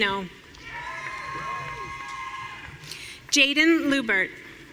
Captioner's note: audience cheering